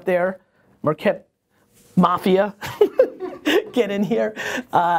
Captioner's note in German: Lachen